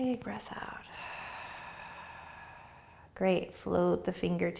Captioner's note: exhaling